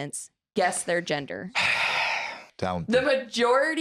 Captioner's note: sighs